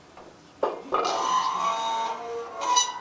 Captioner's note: squeaking